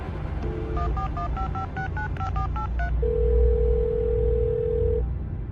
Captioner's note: phone dialing and ringing